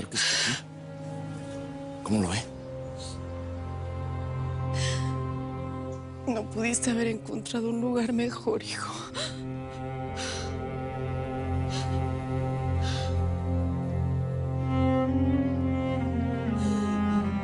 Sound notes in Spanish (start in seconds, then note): 11.6 Sollozos